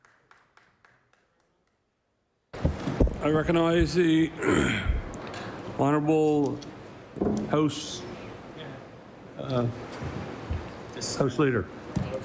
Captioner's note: applause